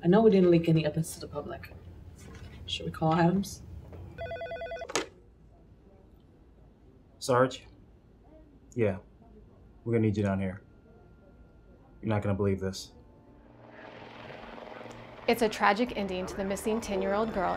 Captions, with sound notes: - I know we didn't leak any of this to the public. Should we all Adams? (phone ringing) - Sarge? Yeah, we're gonna need you down here. You're not gonna believe this. (helicopter buzzing) - It's a tragic ending to the missing 10 year old girl,